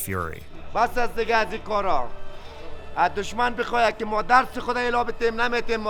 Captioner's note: speaking in a foreign language